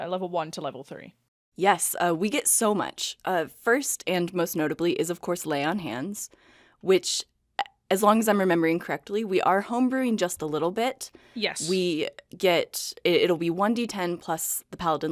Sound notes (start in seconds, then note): none